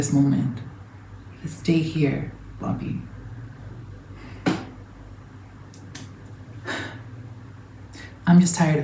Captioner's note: deep exhale